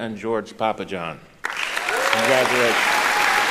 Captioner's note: applauding; cheering